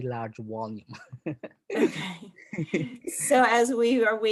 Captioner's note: both laugh